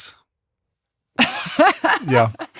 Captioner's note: laughs